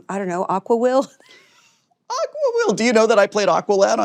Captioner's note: both laughing